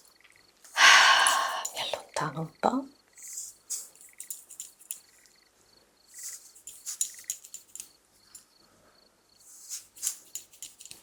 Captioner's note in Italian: sospiri